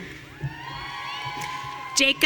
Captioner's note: audience cheering